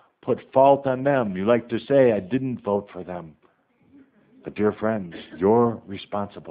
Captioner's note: some laughter